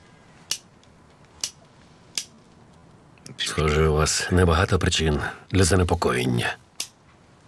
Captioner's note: clicking